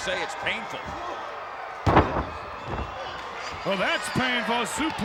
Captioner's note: applause